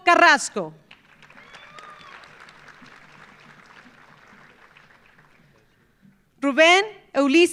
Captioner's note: audience applauding; audience cheering